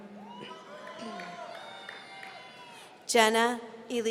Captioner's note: audience cheering